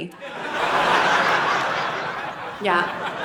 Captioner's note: audience laughing